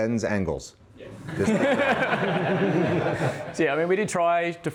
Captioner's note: laughing